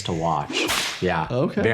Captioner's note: whip cracks